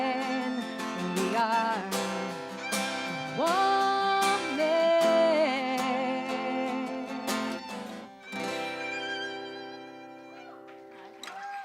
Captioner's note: applause